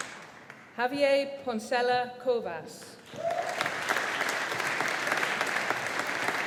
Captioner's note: audience applauding